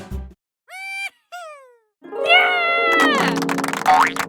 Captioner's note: excited cheering